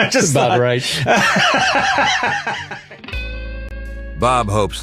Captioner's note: laughing